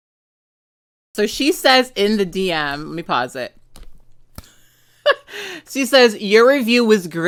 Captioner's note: laughs